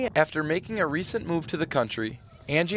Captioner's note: voiceover